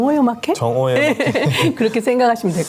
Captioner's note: both laugh